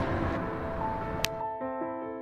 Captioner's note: snap